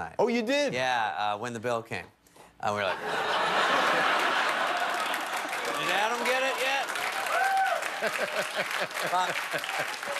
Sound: laughter

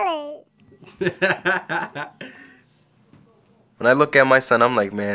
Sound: corey laughing

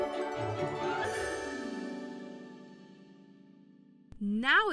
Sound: magical chime

